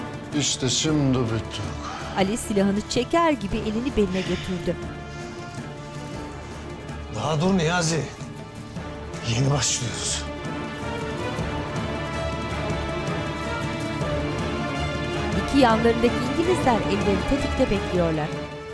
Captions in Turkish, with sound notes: İşte şimdi bittik. (Nefes sesleri) Daha dur Niyazi, yeni başlıyoruz. (Müzik - Gerilim)